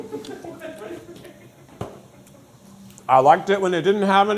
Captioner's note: crew laughing